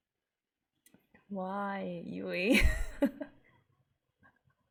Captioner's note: laughs